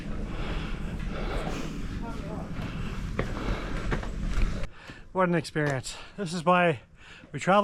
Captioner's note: panting